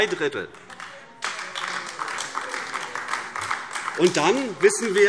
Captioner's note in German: Beifall AfD